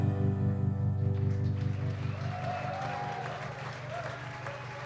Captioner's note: applause